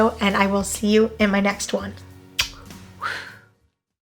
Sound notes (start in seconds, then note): 2.3 kissing noise